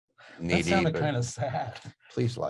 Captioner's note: laughing